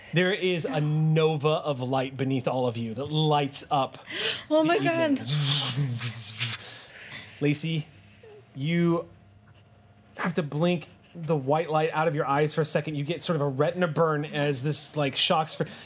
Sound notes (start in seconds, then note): none